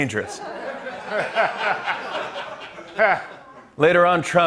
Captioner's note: laughter